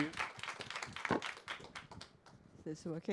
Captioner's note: audience applause